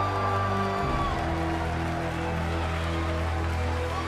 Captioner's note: cheers and applause